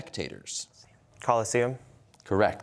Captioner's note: whispering